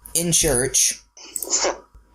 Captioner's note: gives a chuckle